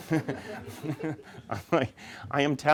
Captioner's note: audience laughing